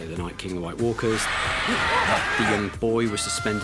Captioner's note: shrieking